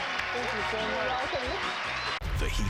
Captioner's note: audience applauding